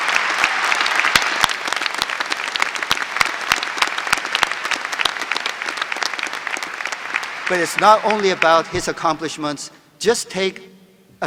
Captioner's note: applause